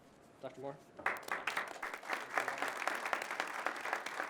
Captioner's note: crowd claps